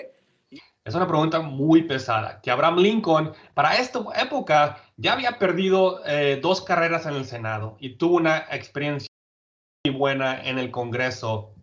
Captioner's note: speaking Spanish